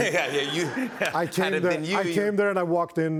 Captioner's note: laughter